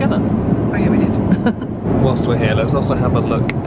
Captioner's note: chuckles